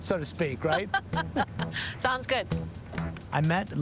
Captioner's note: laughs